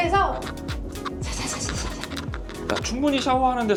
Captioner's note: shhh shhh